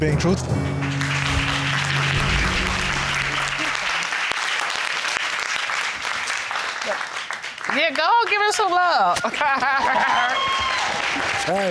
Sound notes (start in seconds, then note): 2.1 audience applauding; 9.2 laughing